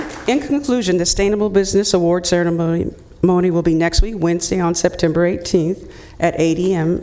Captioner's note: applauding